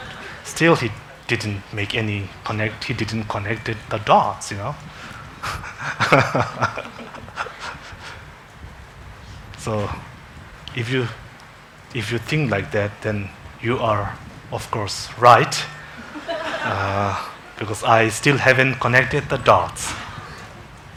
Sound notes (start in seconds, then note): 4.8 laughs; 17.0 congregation laughing